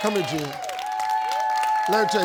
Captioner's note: audience cheering